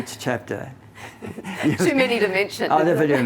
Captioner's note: both laughing